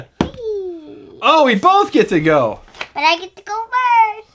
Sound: voiceover

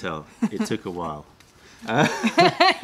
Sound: laughter

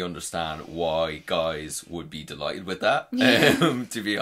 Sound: laughs

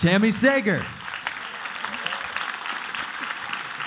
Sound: clapping

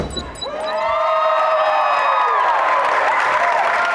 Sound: crowd cheers

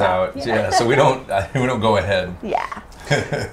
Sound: laughs

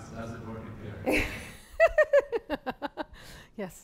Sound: laughter

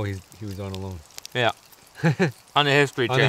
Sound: laughs

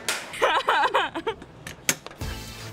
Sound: laughing

